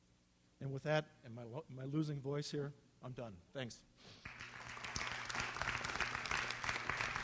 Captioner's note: applause